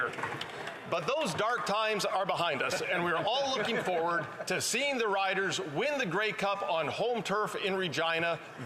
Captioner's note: cheering